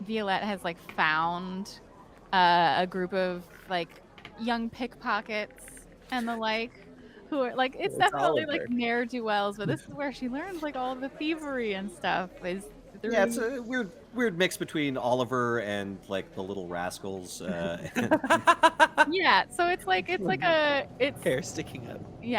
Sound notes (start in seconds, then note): 17.6 Cornette laughs; 17.6 laughs